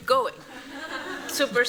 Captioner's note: laughter